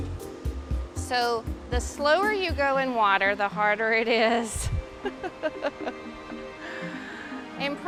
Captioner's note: laughs